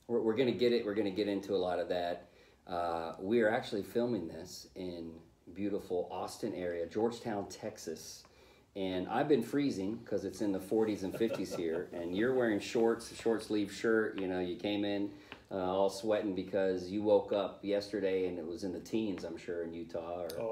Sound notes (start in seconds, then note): 10.9 laughing